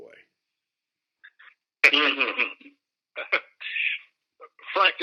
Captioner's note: chuckling